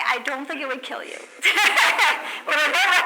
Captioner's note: laughs